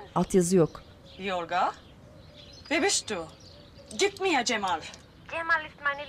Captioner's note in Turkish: Almanca konuşma; Kadın - Almanca konuşma